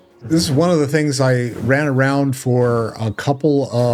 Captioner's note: laughing